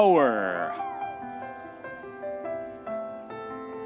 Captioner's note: audience member hoots; gentle piano music continues